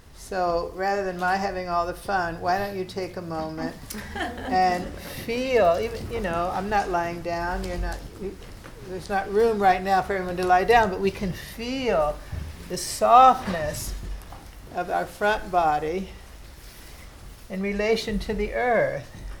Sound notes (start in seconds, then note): 3.7 laughing